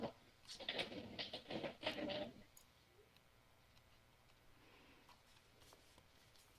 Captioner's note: chair creaking